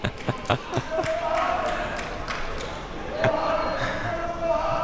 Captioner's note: laughing; man shouting